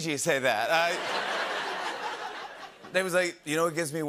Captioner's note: laughter